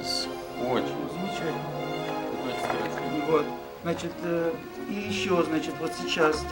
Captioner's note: men speaking in the Russian language